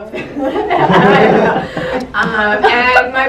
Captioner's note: laughter